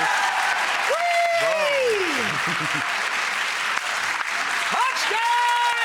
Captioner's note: audience cheering; audience clapping; cheering